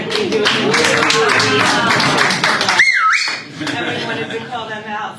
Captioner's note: audience applauds